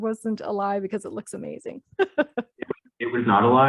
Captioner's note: laughs